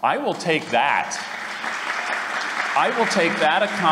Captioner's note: applause